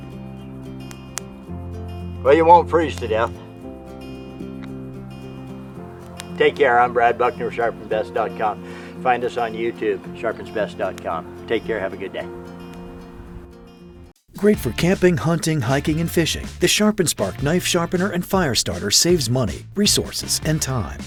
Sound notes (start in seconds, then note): 13.6 voiceover